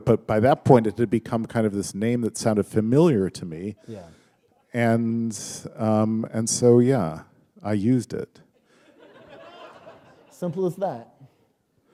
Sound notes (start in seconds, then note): 8.6 laughter